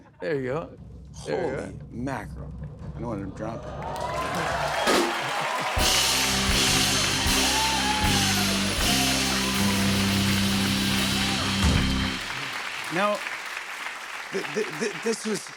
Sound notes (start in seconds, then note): 3.8 cheers and applause